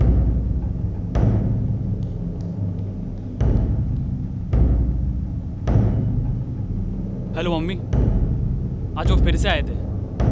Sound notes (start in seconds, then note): 2.0 footsteps walking down the stairs